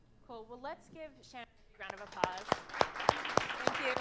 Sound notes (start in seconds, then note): 1.8 audience applauding